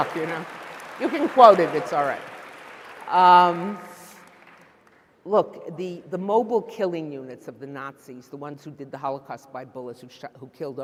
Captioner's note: applause